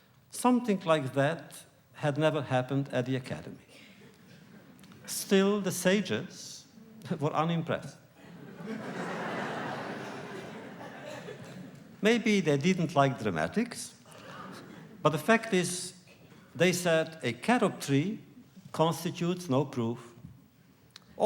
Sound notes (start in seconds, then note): 8.2 laughter